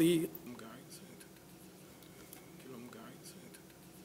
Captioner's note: mutters